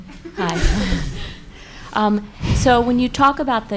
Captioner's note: audience laughs